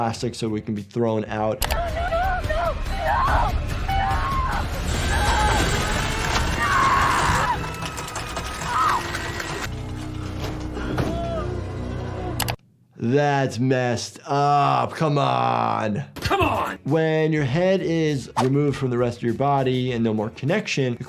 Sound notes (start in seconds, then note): 3.8 screaming; 4.8 mechanical clattering